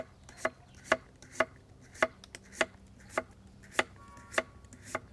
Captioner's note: chopping sounds